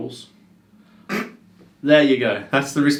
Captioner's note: laughs